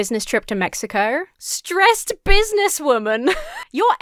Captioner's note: laughs